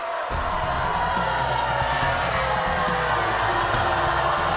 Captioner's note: crowd shouting